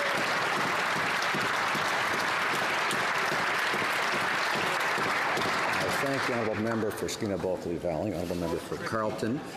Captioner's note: applause